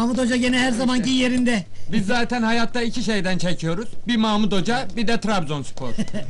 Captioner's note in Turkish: gülerler